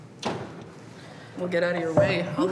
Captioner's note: laughing